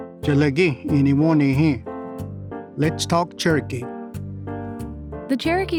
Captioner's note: language segment music begins; speaks in Cherokee